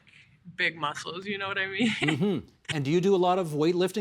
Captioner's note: laughter